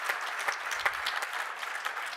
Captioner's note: applause